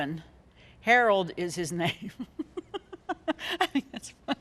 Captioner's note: laughing